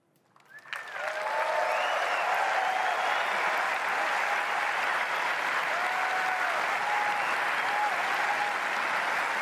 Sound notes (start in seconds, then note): 0.6 audience cheering